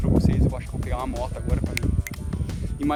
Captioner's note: click click